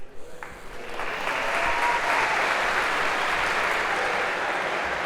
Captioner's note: تشویق، تشویق